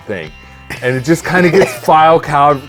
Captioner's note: laughing